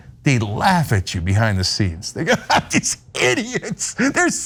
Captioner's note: laugh